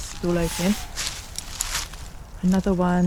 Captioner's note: tawny owl